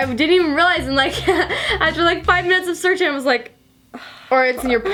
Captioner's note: sighing